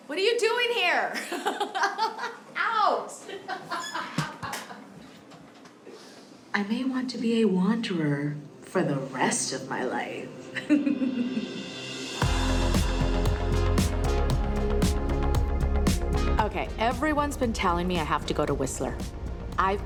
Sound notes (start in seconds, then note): 3.2 laughs; 11.5 laughs; 12.4 slow electronic music